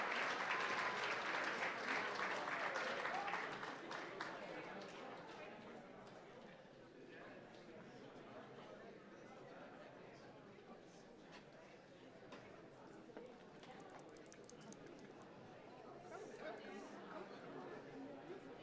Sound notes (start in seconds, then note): 4.4 audience murmuring